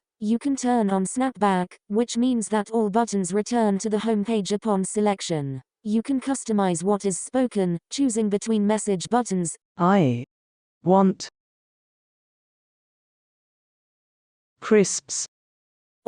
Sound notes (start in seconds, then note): 9.8 Proloquo2Go voice